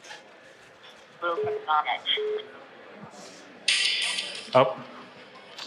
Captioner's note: dial tone beeping